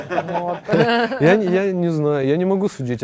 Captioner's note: laugh